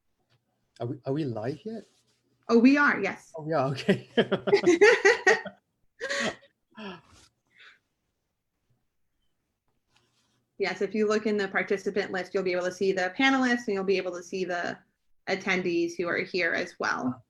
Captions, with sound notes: Are we live yet? Oh, we are. Yes. Oh, we are. OK. [LAUGHTER] Yes, if you look in the participant list, you'll be able to see the panelists, and you'll be able to see the attendees who are here as well.